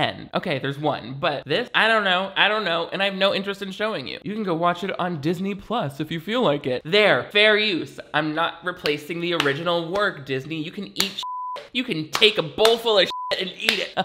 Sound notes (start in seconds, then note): 11.2 beep